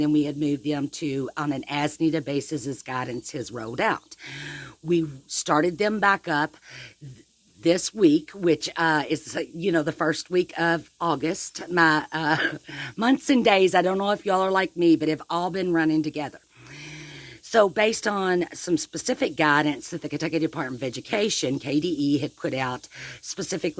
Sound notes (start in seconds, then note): 12.2 chuckles